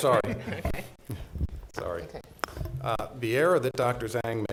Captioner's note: chuckling